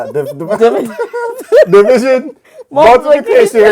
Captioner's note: laughing